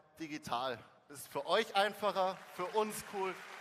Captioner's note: applause